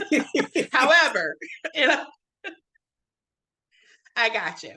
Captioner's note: laughing